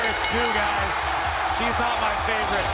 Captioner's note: bell ringing